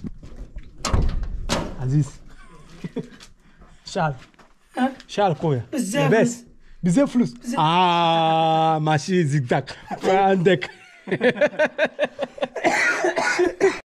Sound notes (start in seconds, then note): 10.0 laughs